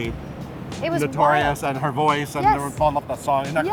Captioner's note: overlapping chatter